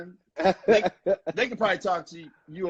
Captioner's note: laughing